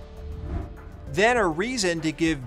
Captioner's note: soft suspenseful music; graphics whooshing